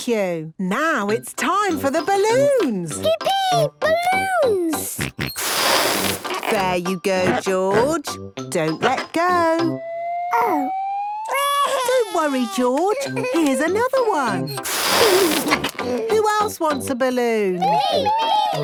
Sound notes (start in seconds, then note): 4.9 George snorts; 11.2 crying; 15.0 George giggles